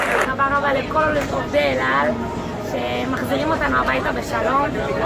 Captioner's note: speaking in a foreign language